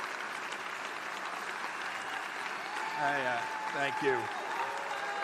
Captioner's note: applause